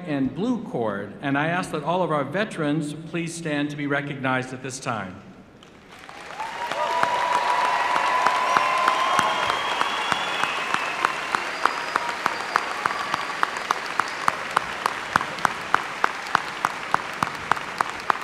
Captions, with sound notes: Thank you. Be seated. Graduates who are veterans where a red, white and blue cord. I asked that all of our veterans please stand to be recognized at this time. [ Applause ]